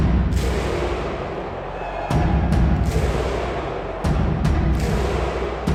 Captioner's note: crowd clapping and cheering